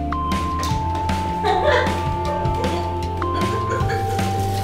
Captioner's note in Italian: Risate